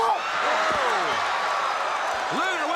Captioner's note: crowd cheering